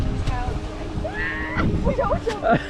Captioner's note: screams